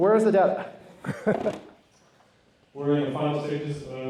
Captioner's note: laughs